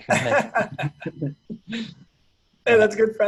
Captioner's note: laughing